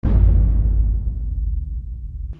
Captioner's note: dramatic boom